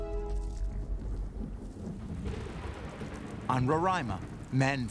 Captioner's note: thunder roaring